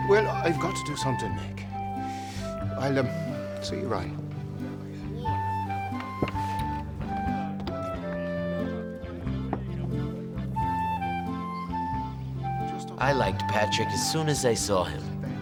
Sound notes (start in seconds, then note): 4.9 people chattering; 4.9 soft music